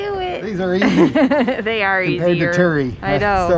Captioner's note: laughs